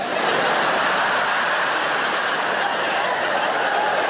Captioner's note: audience laughing